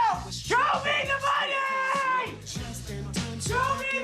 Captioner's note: yells